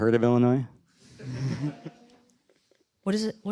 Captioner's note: laughter